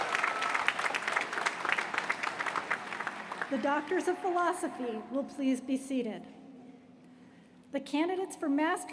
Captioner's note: applause